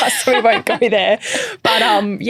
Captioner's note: chuckling